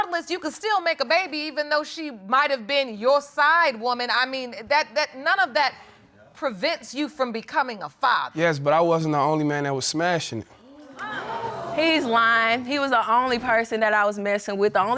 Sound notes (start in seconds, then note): 10.7 audience exclaiming